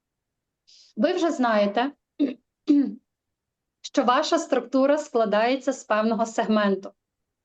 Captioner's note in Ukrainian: прочищення горла